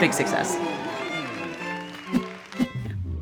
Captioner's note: cheering continues